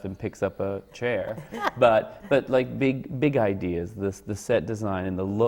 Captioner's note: laughs